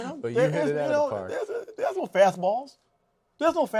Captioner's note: laughs